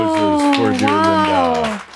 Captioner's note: more applause